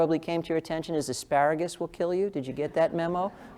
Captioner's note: laugh